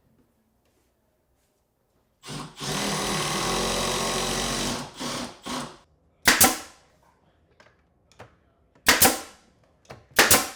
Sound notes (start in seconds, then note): 2.2 drill drilling; 6.2 nail gun clicking